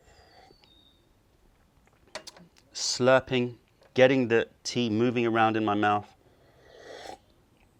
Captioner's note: sips tea